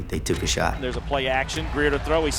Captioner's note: voiceover